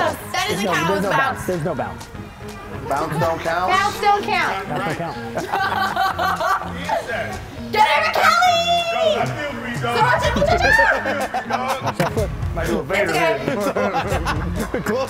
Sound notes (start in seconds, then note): 4.6 laugh; 9.2 laugh